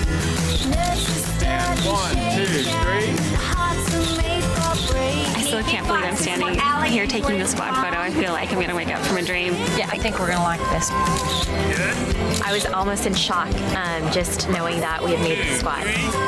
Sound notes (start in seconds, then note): 11.0 camera clicking